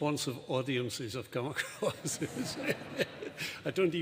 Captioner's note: laughs